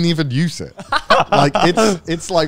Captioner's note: laughs